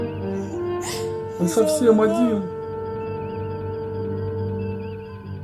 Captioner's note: sobs